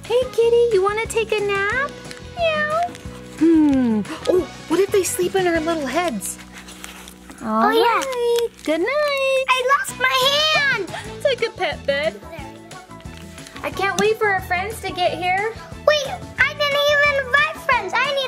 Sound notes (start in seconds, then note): 11.9 laughs